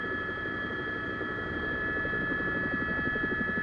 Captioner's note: helicopter